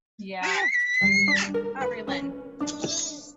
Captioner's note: baby screams drown conversation